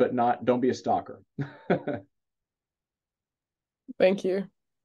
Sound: chuckles

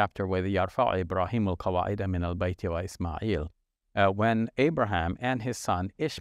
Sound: speaking in Arabic

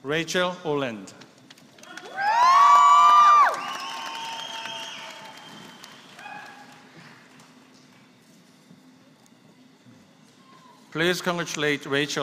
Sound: applause

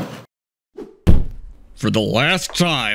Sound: thud

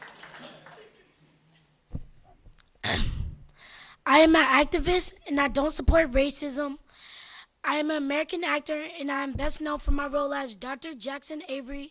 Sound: applause

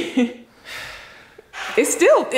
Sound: laughs; sighs

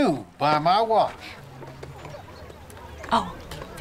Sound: indistinct conversation

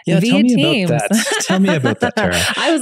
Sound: laughing amusingly

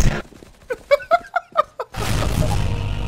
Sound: laughing

